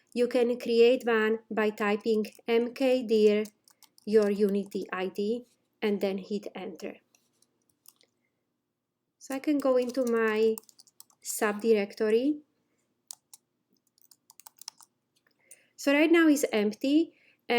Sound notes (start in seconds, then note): 13.8 instructor typing